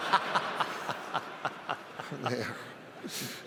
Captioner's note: audience laughs; laughs